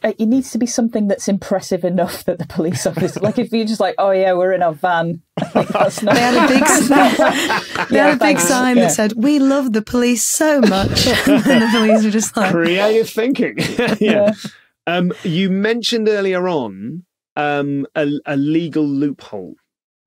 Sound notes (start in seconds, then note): 2.7 chuckles; 5.4 group laughing